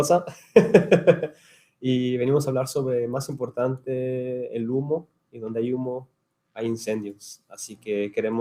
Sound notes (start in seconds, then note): 0.1 laughing; 2.1 speaking in Spanish